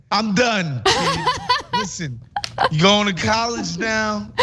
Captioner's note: laugh